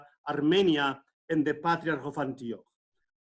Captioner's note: speaks in foreign language